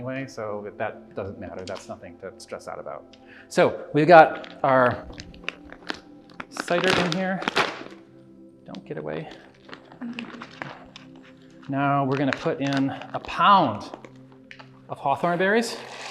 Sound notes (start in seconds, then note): 6.2 bag tears; 15.8 berries pour